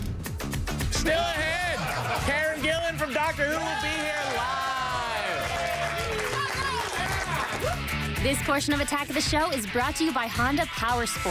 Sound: laughter

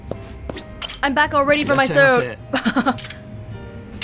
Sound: chuckles

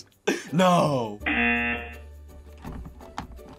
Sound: buzzer rings

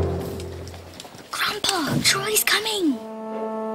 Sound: whisper

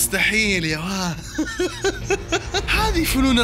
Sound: laughter

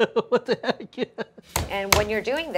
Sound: laughing

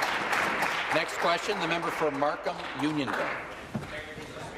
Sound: applause

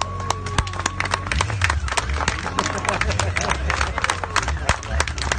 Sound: more revving & applause

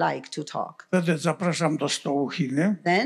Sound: foreign language

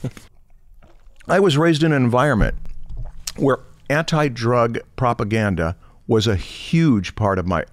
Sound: chuckles

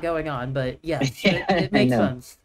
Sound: laughs

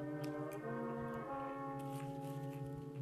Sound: chewing

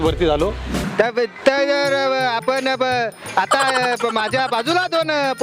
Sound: nervous gibberish

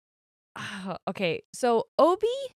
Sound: sighs

